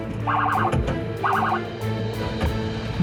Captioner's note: siren